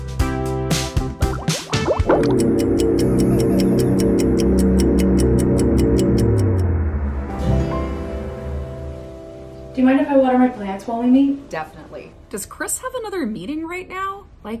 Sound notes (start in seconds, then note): 0.0 bubble noises; 1.1 clock ticking; 2.1 mystical humming